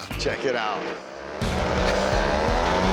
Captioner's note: engine revving